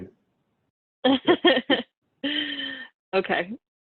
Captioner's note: laughing